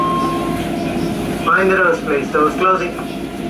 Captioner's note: train Operator Announcement